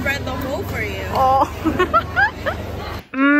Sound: laughs

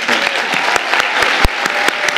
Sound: audience applauding

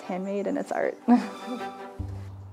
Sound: chuckles

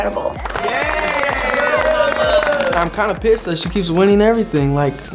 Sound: housemates cheering

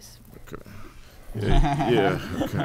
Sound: everyone laughing

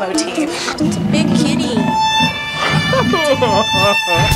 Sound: crying; jazzy music

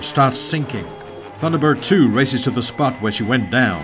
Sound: jet whirring

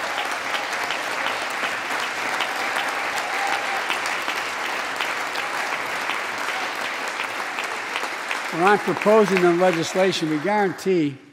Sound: applause

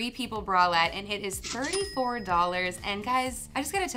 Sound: till rings

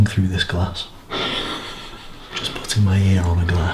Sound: laughter

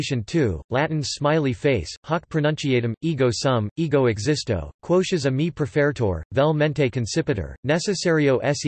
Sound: Latin

